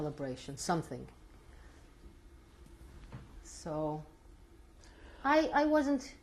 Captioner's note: pauses for 3 seconds